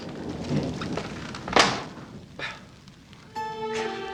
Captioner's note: thunder